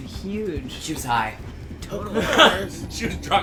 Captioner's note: laughs